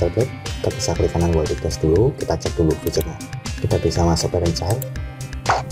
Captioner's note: click